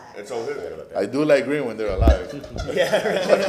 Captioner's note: laughter